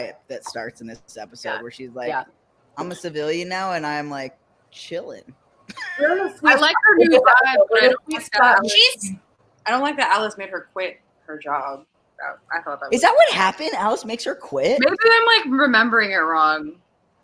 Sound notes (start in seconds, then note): 5.8 laughs